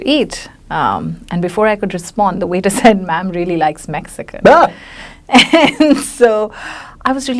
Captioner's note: laughs